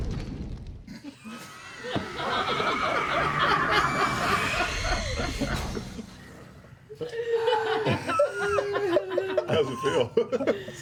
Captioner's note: laughter